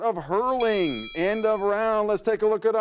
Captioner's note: bell dings